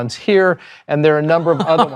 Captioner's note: laughs